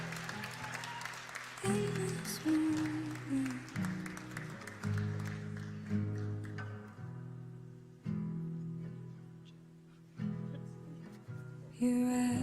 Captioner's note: applause